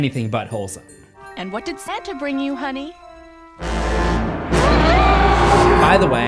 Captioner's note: screams